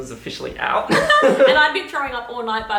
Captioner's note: both narrators laughing